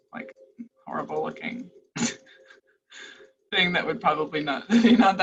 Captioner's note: laughs